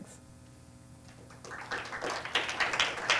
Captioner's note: applause